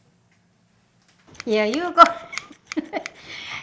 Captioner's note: laughs